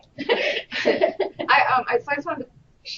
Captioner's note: laughter